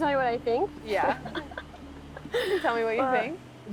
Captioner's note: laughs